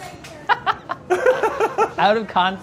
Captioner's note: laughs